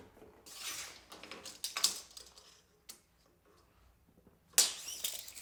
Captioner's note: tape measure rattling